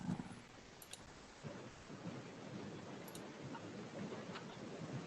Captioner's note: computer mouse clicking